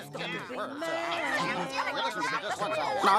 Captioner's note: everyone talking